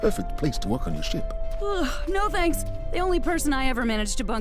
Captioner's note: yawns